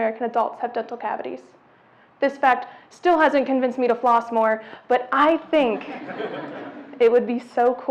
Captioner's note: audience laughs